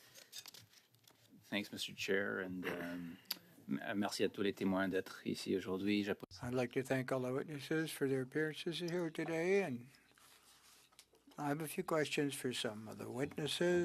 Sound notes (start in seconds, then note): 11.2 speaking French